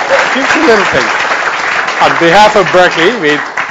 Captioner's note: audience applauds; drowned out by applause